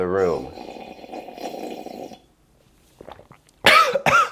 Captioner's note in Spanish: sorbiendo; tosiendo